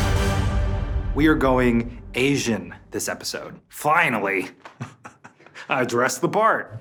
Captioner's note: laughs